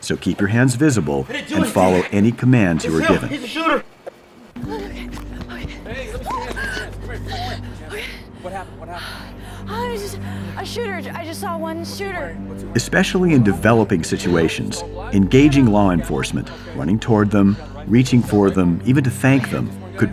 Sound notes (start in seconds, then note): 4.5 running footsteps